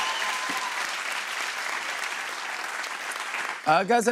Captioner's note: cheers and applause